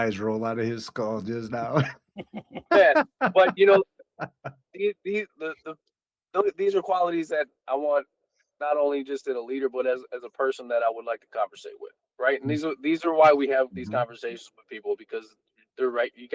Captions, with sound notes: roll out of his skull just now. (Laughing) But these are qualities that I want, not only just in a leader, but as a person that I would like to conversate with, right? And these are why we have these conversations with people, because you